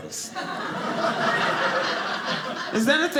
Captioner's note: audience laughing